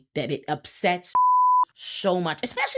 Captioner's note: beep